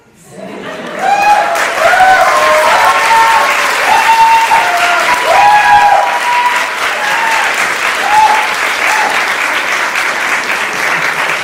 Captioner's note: applause